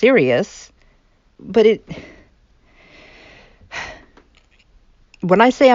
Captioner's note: sigh